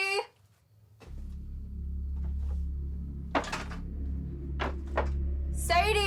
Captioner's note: ominous music; debris clatters